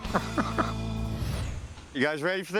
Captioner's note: laughs